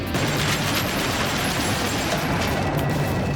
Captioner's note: guns fire